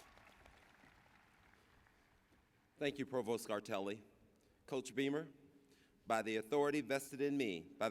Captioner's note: cheers and applause